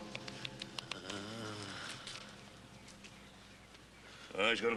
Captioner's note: faint moaning